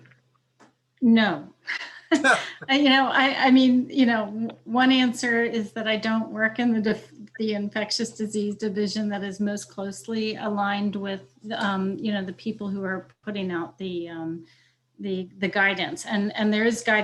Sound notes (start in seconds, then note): 2.1 chuckling